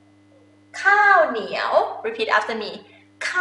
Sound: talking in foreign language

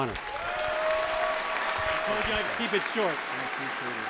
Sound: applause and cheering

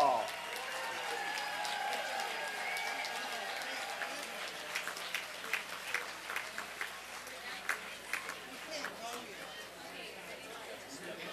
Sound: applause and cheering

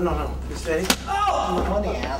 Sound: yells

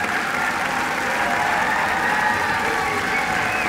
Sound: cheers and applause

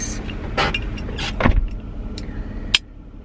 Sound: car door closing

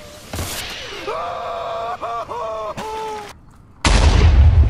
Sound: screaming

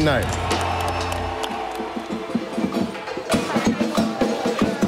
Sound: clanking

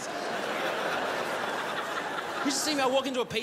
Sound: crowd laughs

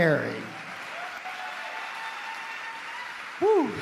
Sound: audience clapping

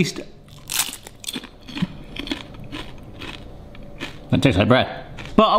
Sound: crisps crunching

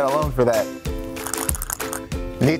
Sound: baby Rattle Sound

